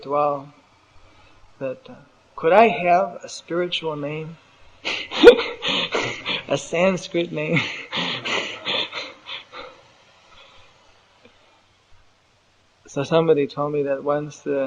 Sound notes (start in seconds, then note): 4.8 laughs